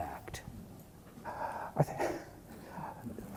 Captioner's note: laughs